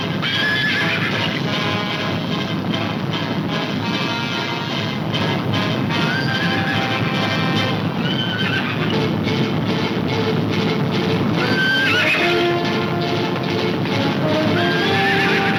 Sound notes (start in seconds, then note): 0.2 tense music; 4.6 horses neighing